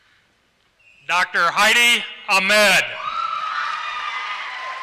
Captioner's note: applause